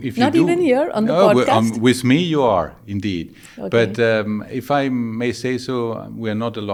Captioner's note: laughing